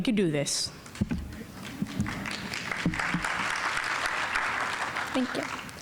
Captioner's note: audience applauding